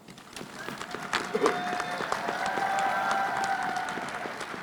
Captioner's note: audience applauds